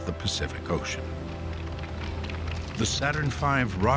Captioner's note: applause